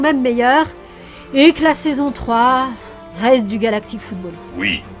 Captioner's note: sigh